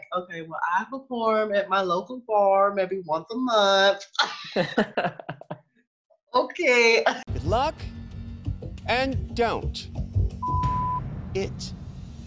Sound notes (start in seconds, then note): 4.2 laughing; 10.4 beep